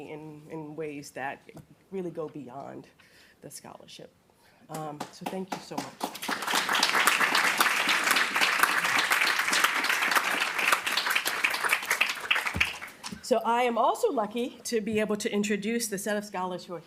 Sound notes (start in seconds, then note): 6.8 applause